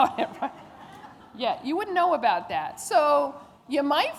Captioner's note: laughter